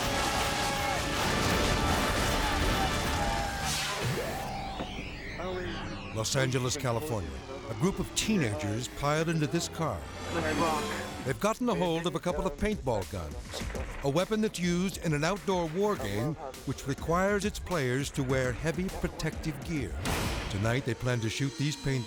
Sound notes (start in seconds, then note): 0.0 wall crashing; 0.0 people shouting; 3.7 graphics whoosh